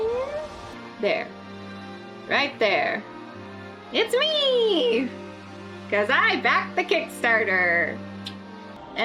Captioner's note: clicks tongue